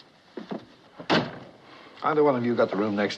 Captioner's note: door Slams